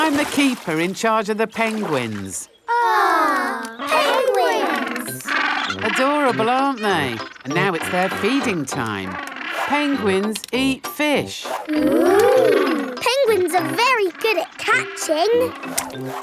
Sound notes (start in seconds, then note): 4.9 penguins chatter